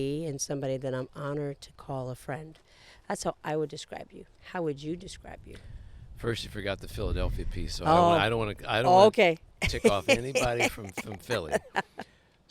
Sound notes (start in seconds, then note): 9.6 laughs